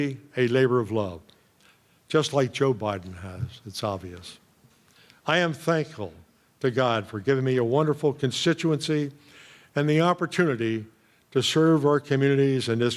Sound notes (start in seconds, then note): none